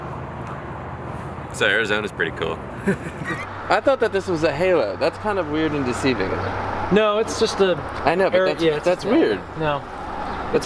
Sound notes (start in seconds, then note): 2.8 laughs